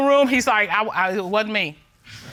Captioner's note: stutters